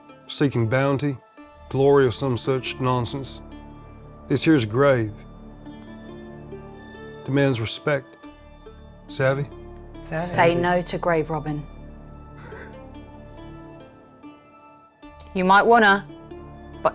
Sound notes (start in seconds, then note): 12.4 chuckles